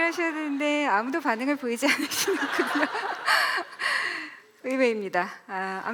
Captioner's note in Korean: 웃음